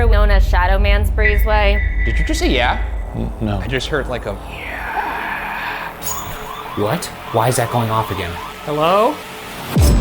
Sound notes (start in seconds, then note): 3.7 siren blaring